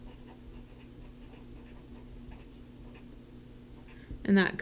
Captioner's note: pen writing on paper